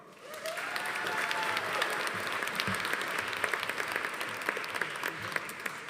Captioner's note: audience applauding; audience cheering